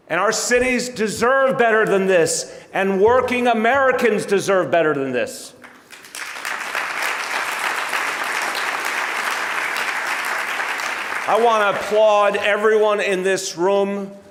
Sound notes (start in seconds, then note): 5.6 audience applauding